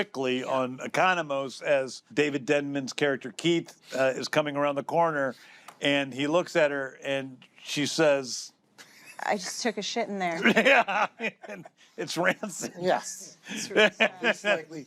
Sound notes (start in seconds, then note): 10.3 laughter